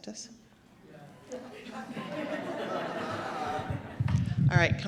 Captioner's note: chuckling